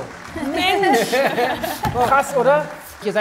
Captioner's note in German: Lachen